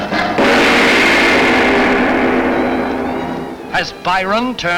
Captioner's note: gong chiming